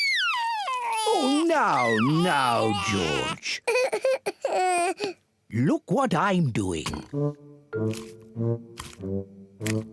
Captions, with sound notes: Oh, now, now, George. (CRIES) Look what I'm doing.